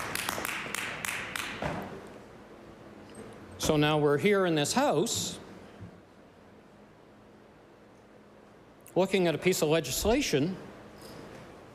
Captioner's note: applause